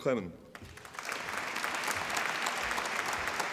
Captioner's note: applause